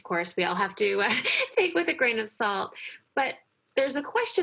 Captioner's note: laughs